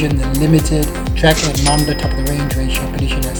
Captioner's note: dings